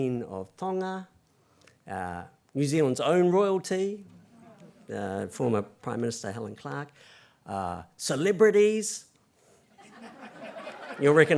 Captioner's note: laugther